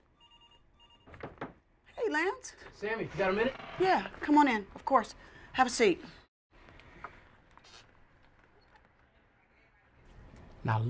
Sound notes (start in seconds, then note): 0.2 phone ringing; 1.2 knocking